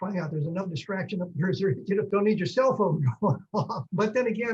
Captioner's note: laughs